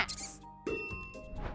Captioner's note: rat squeaks; bell dings